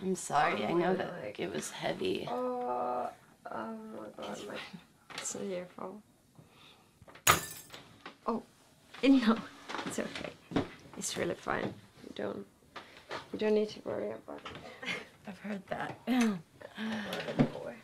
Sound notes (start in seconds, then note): 2.2 murmuring; 7.2 glass breaking